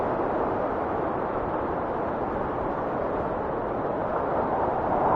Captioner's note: wind whistling continues